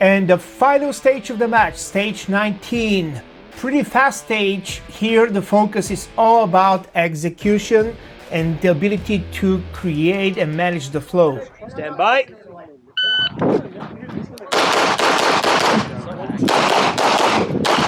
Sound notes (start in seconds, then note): 13.0 machine beeping; 14.4 gunshots banging